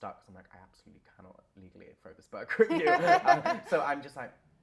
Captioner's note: laughter